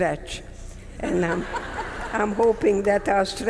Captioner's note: audience members laughing